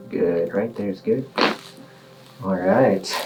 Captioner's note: bones cracking